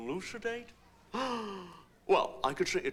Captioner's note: gasp